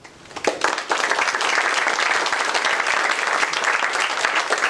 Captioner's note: applause